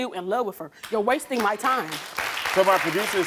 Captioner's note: audience applauding